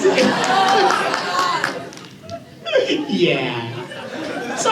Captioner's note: crowd